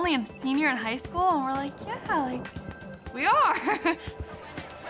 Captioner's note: laughing